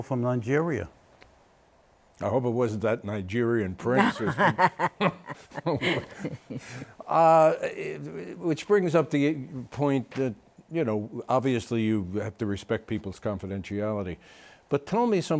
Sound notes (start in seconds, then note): 4.0 laughter